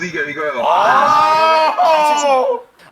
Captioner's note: crying